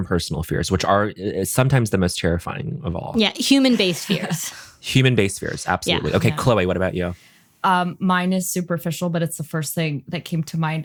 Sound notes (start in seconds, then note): 5.0 chuckles